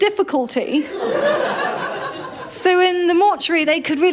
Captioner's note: laughter